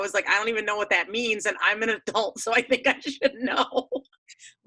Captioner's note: laughs